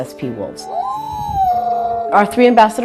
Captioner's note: wolves howling